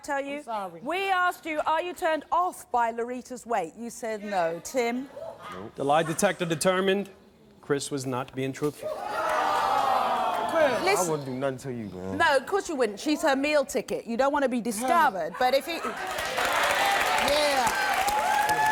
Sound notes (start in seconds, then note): 9.1 audience groaning; 15.9 audience applauding and cheering